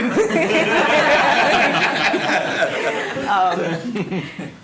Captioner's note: laughter